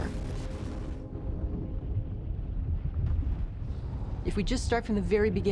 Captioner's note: low rumbling